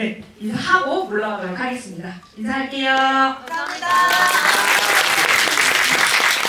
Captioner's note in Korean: 박수; 환호